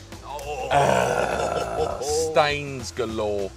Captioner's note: groans